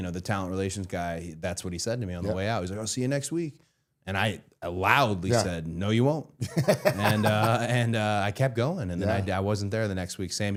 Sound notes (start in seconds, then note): 6.4 Matt laughing